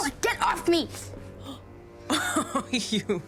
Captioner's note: gasps